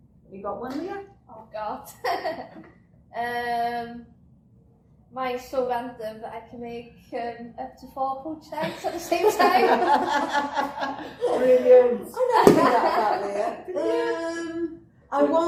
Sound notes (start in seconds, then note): 2.0 laughs; 8.6 laughter